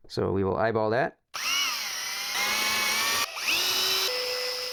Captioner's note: drill whirring